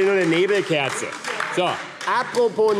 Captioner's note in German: Beifall AfD - Zurufe SPD und BÜNDNIS 90/DIE GRÜNEN